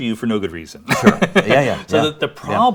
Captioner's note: laughs